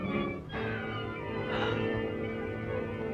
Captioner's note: gasp